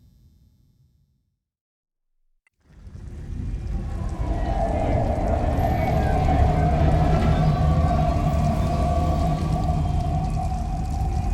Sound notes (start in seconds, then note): 2.8 train rumbles